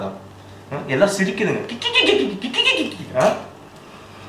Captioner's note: mocks their laughter